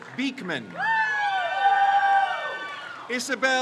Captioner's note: crowd cheers